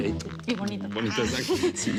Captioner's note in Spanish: Risas